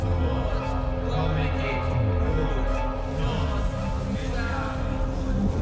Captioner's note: chanting in foreign language